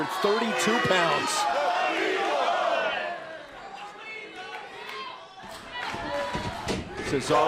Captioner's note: crowd cheering